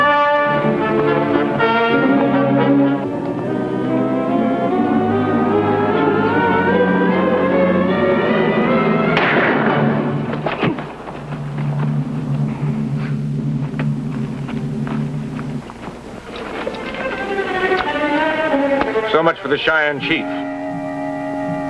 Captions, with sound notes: (dramatic orchestral music) (gun firing) (body thuds) - So much for the Cheyenne chief.